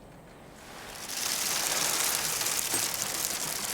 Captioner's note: sloshing